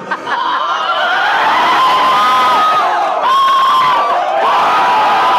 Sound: cheering and screaming

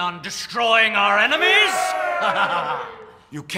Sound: cheering

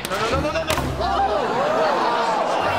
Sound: crowd gasping

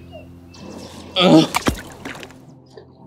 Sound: water splash

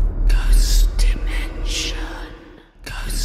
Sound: whispering Voices

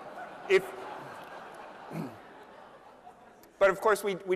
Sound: laughter

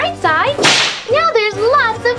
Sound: whip cracks

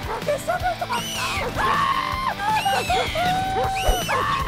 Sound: screaming

